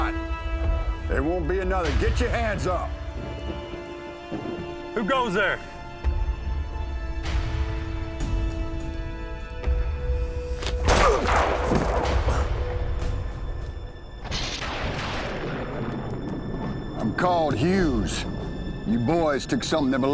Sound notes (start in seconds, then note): 3.8 tense music; 6.8 suspense music; 10.8 gunshot, groans; 14.3 thunderclaps